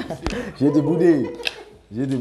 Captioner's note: laughs